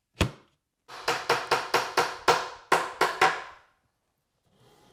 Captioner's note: hammer on wood tapping